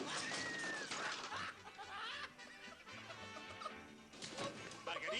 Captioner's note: laughing